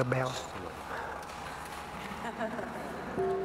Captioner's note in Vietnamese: tiếng cười